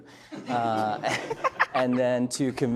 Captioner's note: laughs loudly